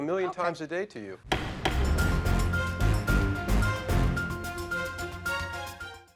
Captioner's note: gavel banging; upbeat music